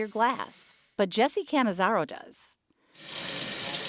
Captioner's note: water splashing